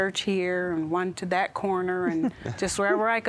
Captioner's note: giggling